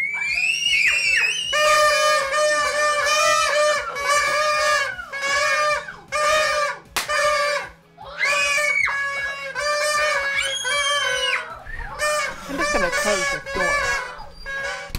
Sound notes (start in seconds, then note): 1.9 kids screaming